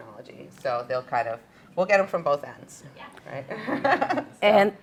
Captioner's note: laughter